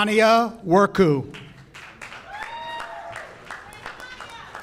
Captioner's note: audience cheers